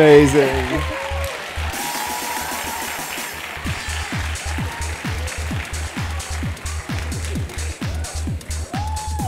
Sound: applause

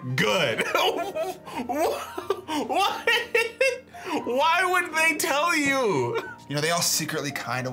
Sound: laughs

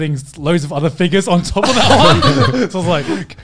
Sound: laughing

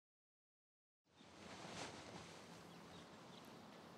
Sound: birds tweet

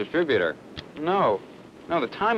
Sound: match lighting

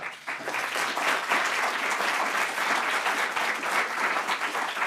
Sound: audience applauding

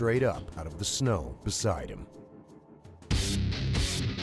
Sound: voiceover

